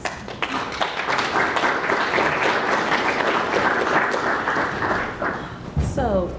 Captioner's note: applause